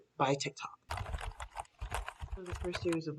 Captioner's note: typing sounds